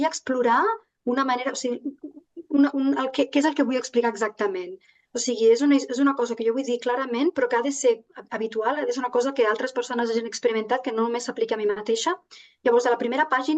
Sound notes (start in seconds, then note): 7.0 continues speaking in Catalan